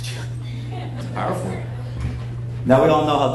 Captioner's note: people chattering